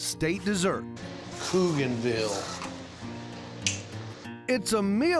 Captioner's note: clicks teeth